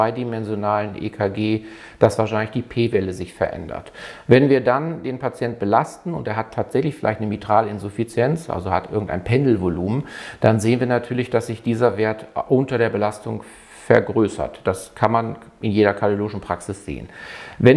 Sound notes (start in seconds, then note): 10.0 pendulum breathing